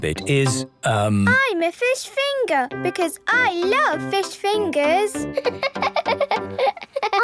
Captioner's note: laughing